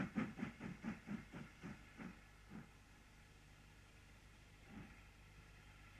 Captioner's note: train passes